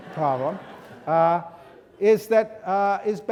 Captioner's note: students laughing